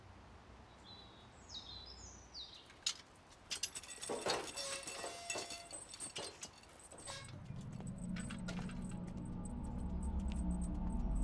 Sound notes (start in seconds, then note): 3.4 chain rattling; 3.6 gate creaking; 7.2 ominous music